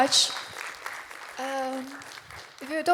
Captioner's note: applause